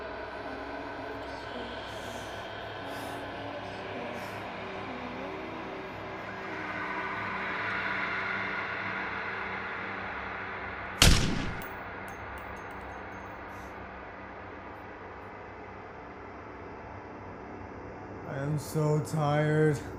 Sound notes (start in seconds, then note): 11.0 gunshot fires; 19.7 ghostly music